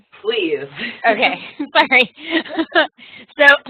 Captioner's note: laughing